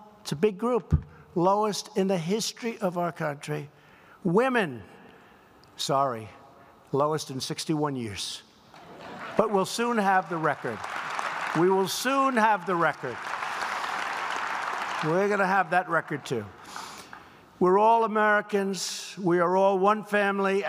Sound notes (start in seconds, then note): 8.8 laughter; 10.7 applause